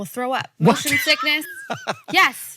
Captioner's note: Hank laughs